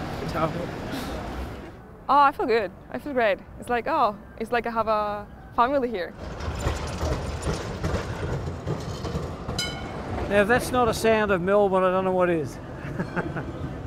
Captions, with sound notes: Ciao I feel good, I feel great. It's like oh - it's like I have a family here. [bell dings] Now if that's not a sound of Melbourne I don't know what is. [laughs]